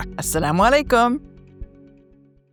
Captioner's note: speaks in foreign language